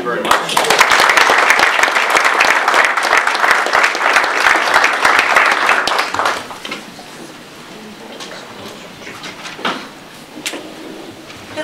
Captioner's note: audience applause